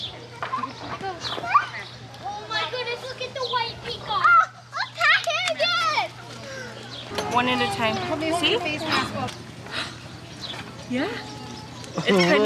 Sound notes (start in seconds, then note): 4.6 children yelling indistinctly